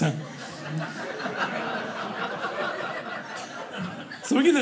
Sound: audience laughing

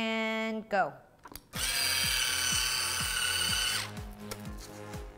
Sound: machine whirs

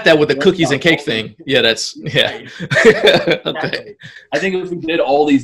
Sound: laughs

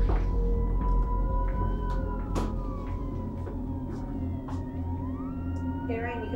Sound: police sirens coming from outside

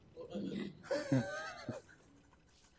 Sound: laughs

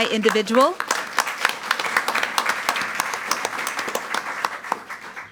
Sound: audience applauds

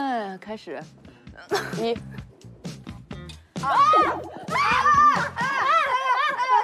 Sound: stage Boom

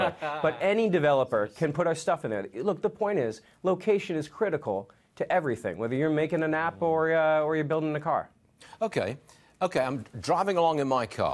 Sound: laughter

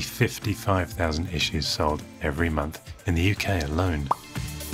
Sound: pop

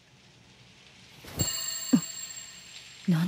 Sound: A small ringing noise

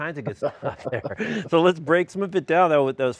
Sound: laughing

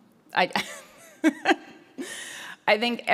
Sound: laughs

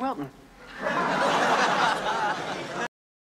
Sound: laughter

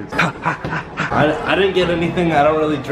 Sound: panting

